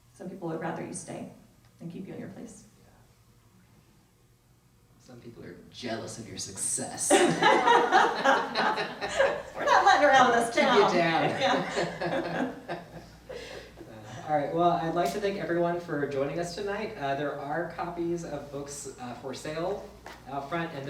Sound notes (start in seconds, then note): 7.1 all laugh; 10.7 both laugh